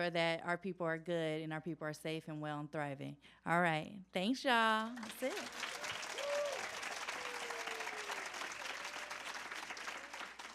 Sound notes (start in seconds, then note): 4.8 applause